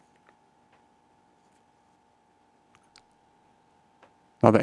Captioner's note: silence